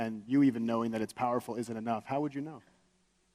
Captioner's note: none